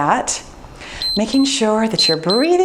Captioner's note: timer beeps